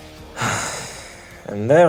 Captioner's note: sigh